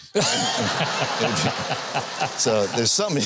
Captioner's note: host and audience laughs